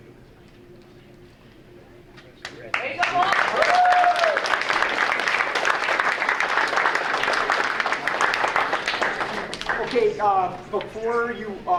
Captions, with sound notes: (audience applauding) >>Okay, before